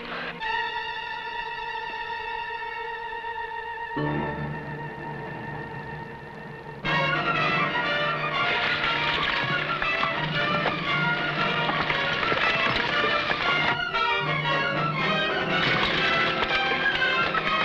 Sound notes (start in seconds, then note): 0.3 dramatic music; 8.5 horse hooves pattering